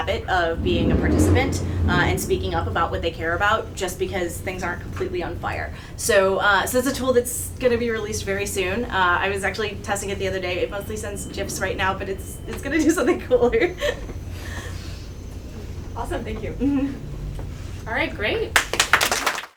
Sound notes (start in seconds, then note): 12.9 chuckles; 18.5 attendees applaud